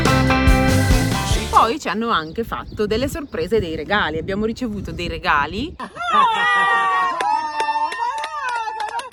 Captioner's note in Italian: Applauso